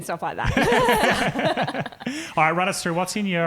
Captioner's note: laughing